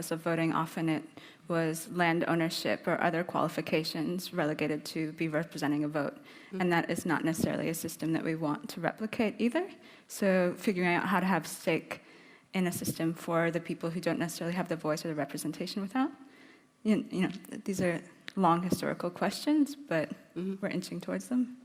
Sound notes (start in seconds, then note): none